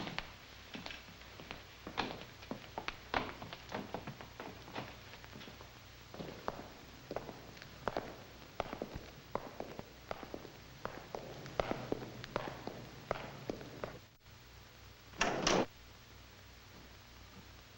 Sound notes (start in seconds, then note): 5.7 footsteps echoing